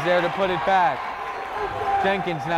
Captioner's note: cheering; clapping